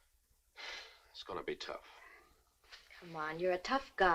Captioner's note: sighs